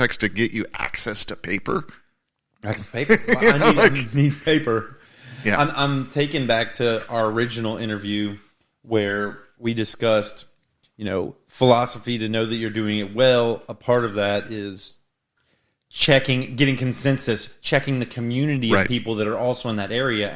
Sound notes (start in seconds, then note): 2.9 laughing